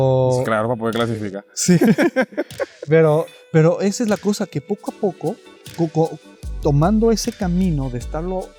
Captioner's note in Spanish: risas